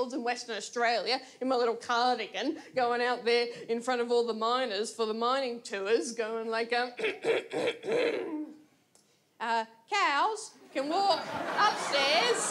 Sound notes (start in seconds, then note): 7.0 clears throat